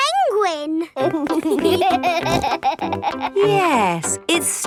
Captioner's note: laughing